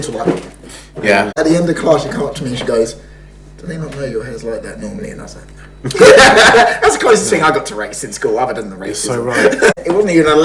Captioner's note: laughs